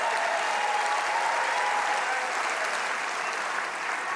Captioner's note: applause